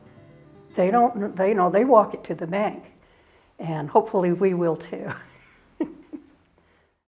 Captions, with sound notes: They walk it to the bank, and hopefully we will, too. (laughs)